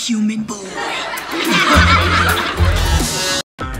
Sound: laughing

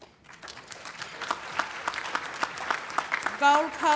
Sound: applause

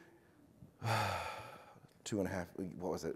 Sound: presenter sighs

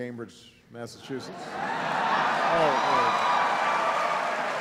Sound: cheering

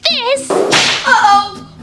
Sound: whip lashes

